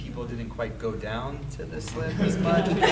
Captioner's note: laughing drowns out speaker